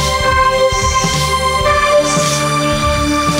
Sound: robotic voice

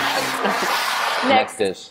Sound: bowls sliding

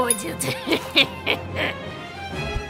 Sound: evil laugh

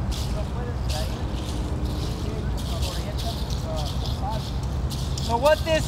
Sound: speaking in foreign language

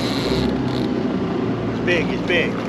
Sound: reel cranking

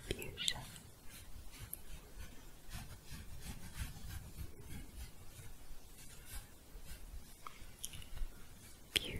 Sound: scratching

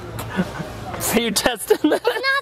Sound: laughs

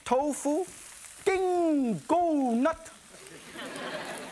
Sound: speaks in foreign language; audience laughs

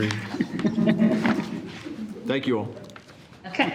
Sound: trustees laugh

